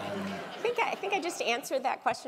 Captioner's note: laugh